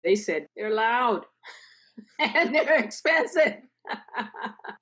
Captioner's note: laughs